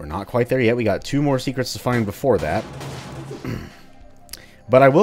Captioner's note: clears throat